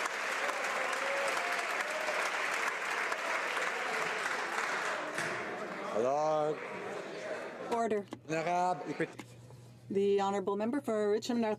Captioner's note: applause